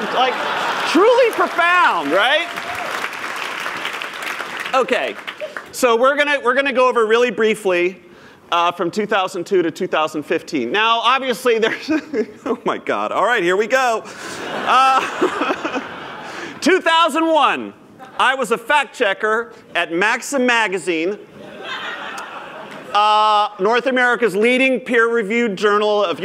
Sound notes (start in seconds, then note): 4.4 applause; 14.2 laughter